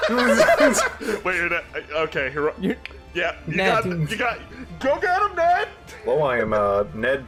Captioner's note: distant yelling